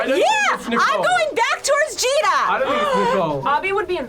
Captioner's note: gasps